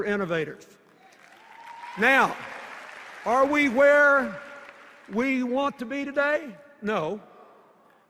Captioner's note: cheers and applause